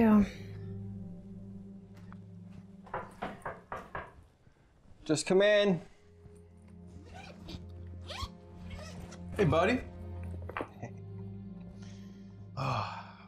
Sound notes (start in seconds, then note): 2.8 knuckles tapping; 11.7 chuckles